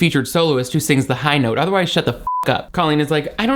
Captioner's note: beep